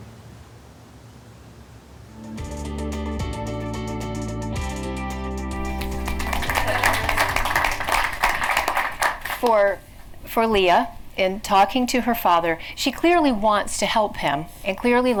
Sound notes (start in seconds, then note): 2.2 bright music; 5.6 audience applauding